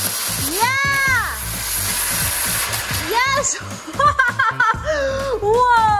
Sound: laughter

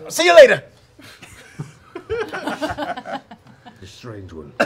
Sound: laughing

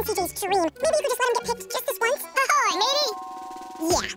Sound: speaking fast forward

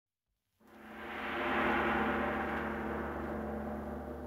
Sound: gong chiming

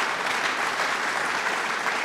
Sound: applause

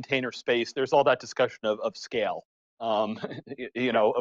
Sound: chuckling

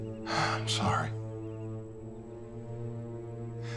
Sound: sighs

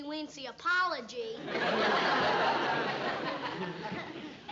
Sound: laughter

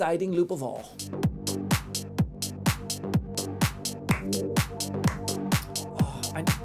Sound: background upbeat music; clapping

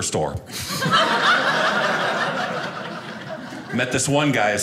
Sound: audience laughing

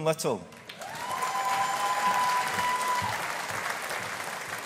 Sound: audience applauding

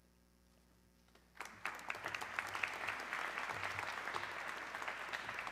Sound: audience clapping

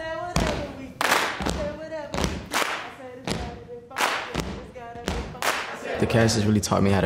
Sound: rhythmic clapping and foot stamping

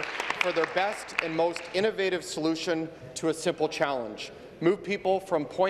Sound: applause

